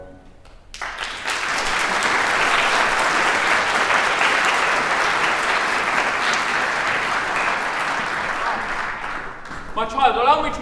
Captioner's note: applause